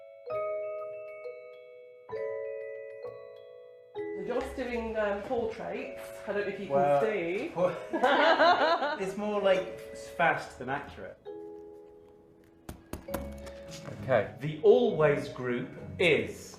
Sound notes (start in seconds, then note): 0.1 gentle music; 7.7 all laugh